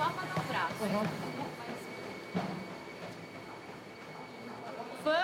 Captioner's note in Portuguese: passos na esteira